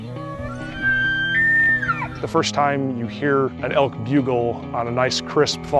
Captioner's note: elk bugling sound